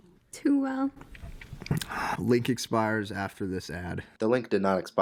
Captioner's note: licks lips